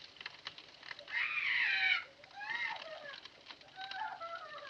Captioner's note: flora screaming, sobbing